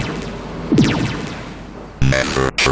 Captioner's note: zap!